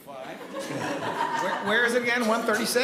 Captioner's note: attendees laughing